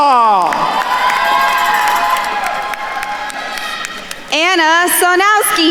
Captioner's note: attendees cheering and applauding